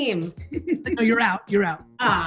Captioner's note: laughs